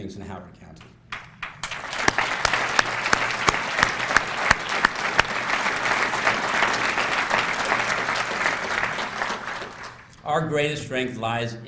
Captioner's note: applause